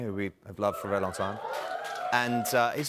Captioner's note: cheering